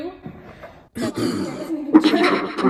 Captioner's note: V.O. clears throat